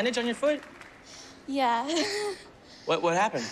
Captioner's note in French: laughs